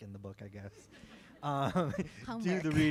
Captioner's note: chuckle